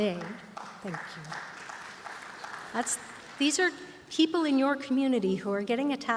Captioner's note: applause